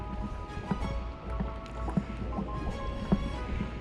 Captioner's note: The sound of fish flapping in the bucket